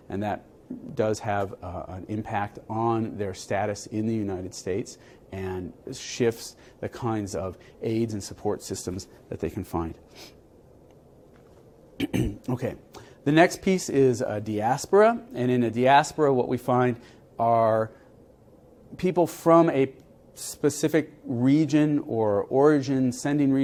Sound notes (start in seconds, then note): 10.0 cough